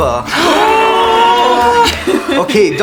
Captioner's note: collective excitement